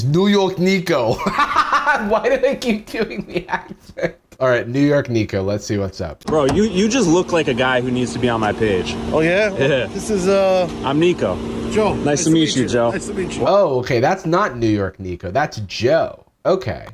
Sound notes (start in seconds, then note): 1.2 cackles